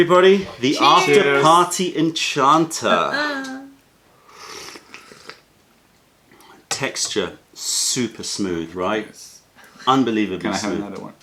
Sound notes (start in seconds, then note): 6.0 sips tea